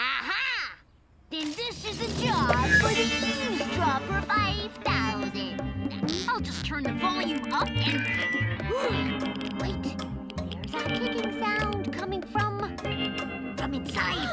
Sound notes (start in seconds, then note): 6.0 ticking sound; 8.6 gasps